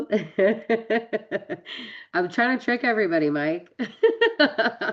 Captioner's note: laughs